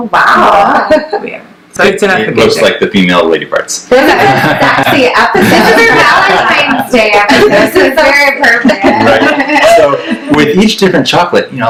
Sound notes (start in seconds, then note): 4.0 laughs